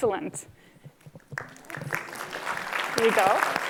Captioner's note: applause